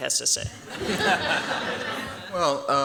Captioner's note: laughter